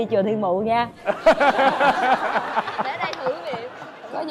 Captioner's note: laughter